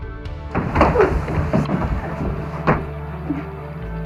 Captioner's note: thuds